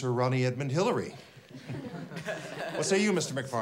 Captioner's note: class chuckles